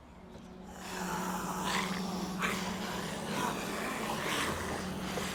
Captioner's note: zombies snarling